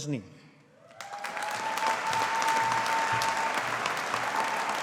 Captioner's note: audience applauding